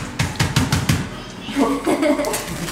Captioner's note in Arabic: الضحك باليد; ضحك جماعي